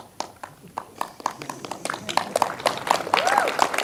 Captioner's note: audience applauds